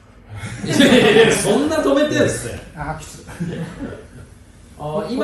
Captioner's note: laughs